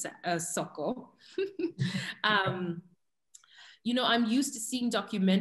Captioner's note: chuckles